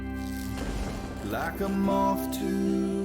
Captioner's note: lightning strikes